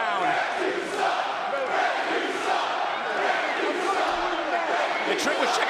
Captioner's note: crowd chants "Ref, you suck"